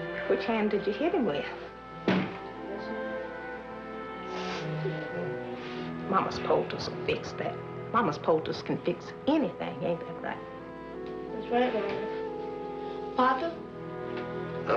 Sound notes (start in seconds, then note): 4.2 Roy whimpering in pain